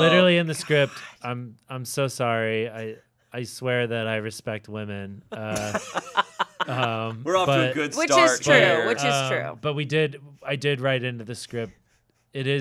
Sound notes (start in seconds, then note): 5.3 laughing